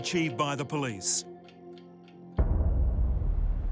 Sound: clock ticks

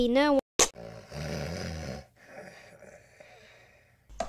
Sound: snoring

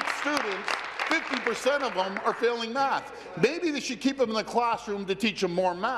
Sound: applause

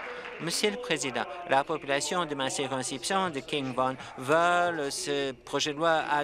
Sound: applause

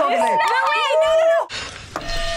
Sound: bell rings

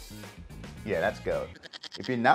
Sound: goat bleating

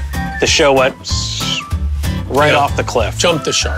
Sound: whistles

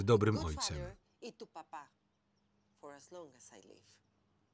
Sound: speaking foreign language

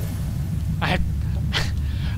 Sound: laugh

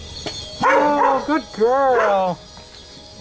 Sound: barks

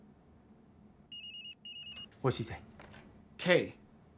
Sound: ringing

